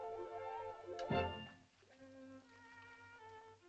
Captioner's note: soft uplifting music; piercing sound